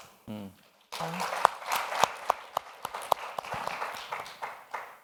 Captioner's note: audience applauds